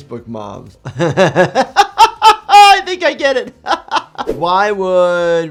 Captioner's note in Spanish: risas